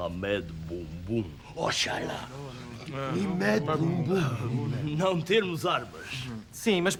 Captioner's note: pseudo-Arabic gibberish